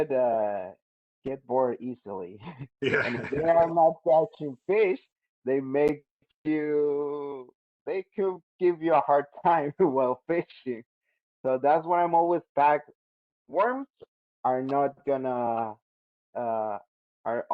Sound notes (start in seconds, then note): 2.8 laughs